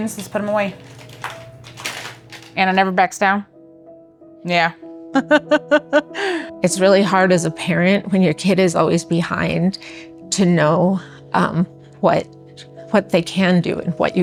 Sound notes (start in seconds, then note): 5.2 laughs